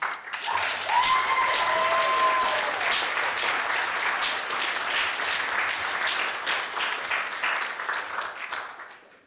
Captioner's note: applause